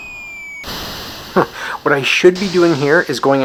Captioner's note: chuckles